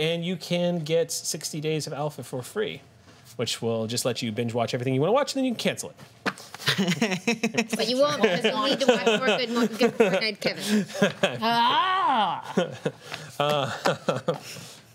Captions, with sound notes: get 60 days of Alpha for free which will just let you binge watch everything you wanna watch and then you can cancel it. (laughter) But you won't because you'll need to watch more Good Fortnight Kevin.